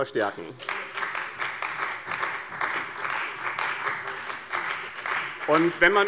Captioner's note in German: Beifall bei dem BÜNDNIS 90/DIE GRÜNEN und der CDU